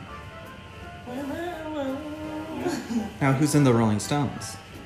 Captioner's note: humming